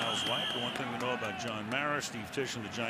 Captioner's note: pa announcement